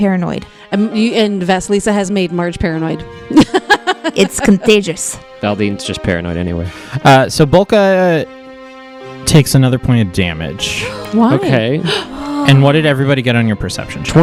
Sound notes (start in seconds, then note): 3.3 laughs; 10.7 gasps